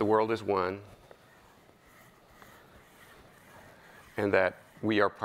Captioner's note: chalk scraping